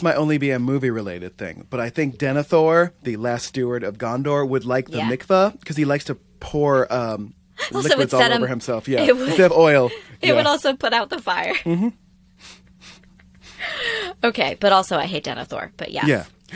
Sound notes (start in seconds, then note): 7.1 laughter